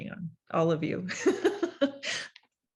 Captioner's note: laugh